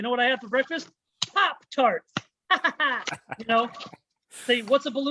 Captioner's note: chuckles